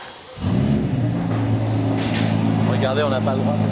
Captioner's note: engine roaring